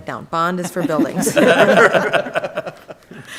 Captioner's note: laughing